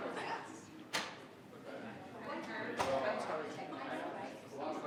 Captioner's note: group quietly conversing